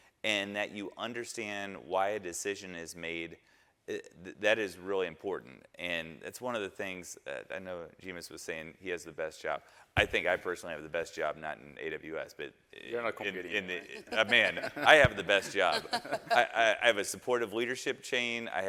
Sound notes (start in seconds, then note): 13.8 panelists laughing